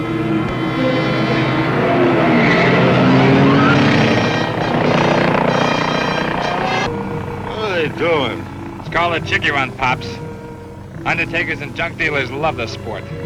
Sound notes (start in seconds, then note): 0.0 dramatic music; 0.2 car engine revving; 2.0 dramatic music; 3.6 car engine revving; 6.1 dramatic music